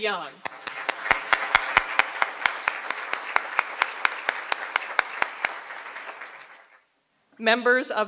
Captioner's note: applause